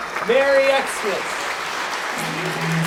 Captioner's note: audience applauds